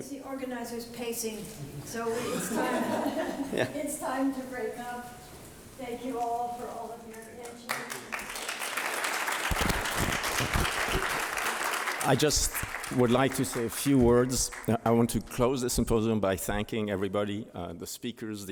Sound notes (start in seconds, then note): 2.1 laughter; 10.7 applause